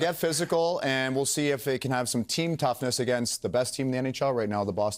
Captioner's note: laughter